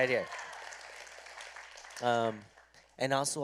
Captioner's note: applause